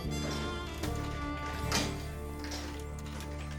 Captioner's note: sliding coins in machine